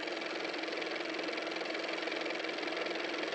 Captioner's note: car motor